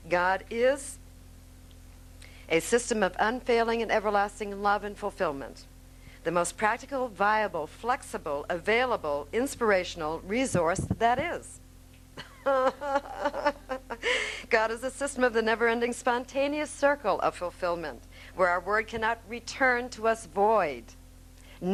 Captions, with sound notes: God is a system of unfailing and everlasting Love and Fulfillment, the most practical, viable, flexible, available, inspirational resource that is (laughing). God is a system of the never ending spontaneous Circle of Fulfillment where our word cannot return to us void,